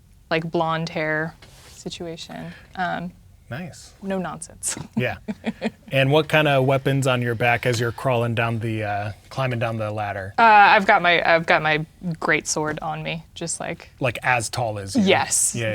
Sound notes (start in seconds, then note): 4.7 laughing